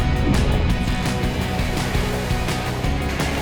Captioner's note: rumbling on dirt road; upbeat music; tape unwrapping; upbeat music; water splashing